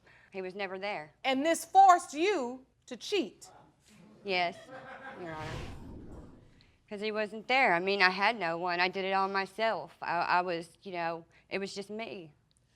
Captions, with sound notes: He was never there. And this forced you to cheat? Yes, Your Honor. (AUDIENCE LAUGHING) 'Cause he wasn't there. I mean, I had no one. I did it all myself. I was, you know... It was just me.